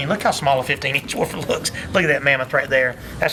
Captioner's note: chuckles